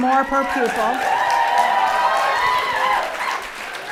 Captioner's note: applause